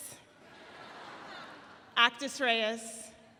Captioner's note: audience laughs